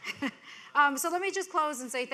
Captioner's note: people laughing